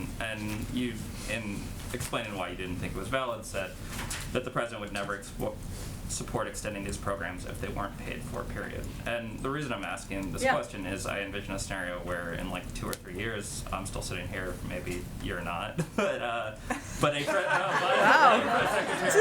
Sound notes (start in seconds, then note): 15.7 laughter